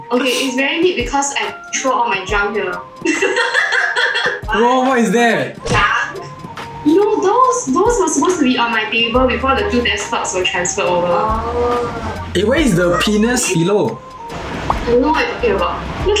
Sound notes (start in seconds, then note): 3.0 laughs